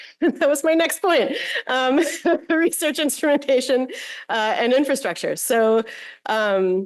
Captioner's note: laughter